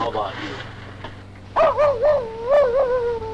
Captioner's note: Pete barking